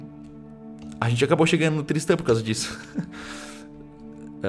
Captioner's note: chuckles